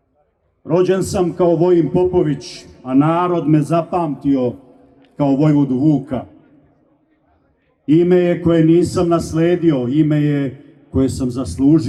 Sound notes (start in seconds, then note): none